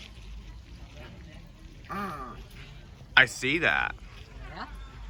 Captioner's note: moaning